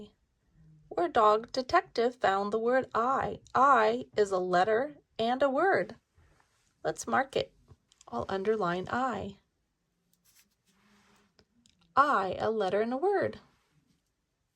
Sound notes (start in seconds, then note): none